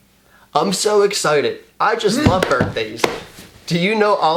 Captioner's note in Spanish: leyendo